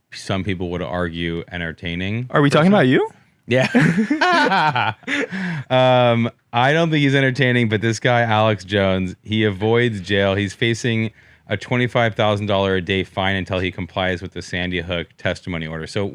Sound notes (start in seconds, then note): 3.5 both laugh